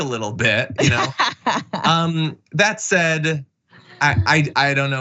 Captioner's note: laugh